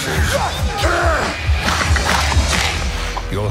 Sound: snarling

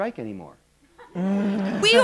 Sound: laughter

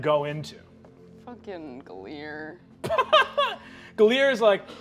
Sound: laughing

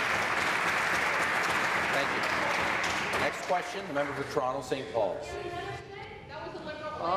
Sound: applause

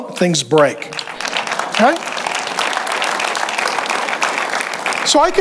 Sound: congregation applauds

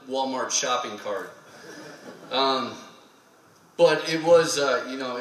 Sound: laughter

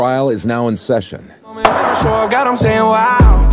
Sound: epic Gavel Sound

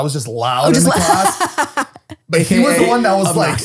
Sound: they laugh

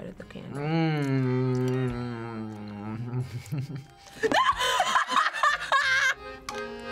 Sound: laughs

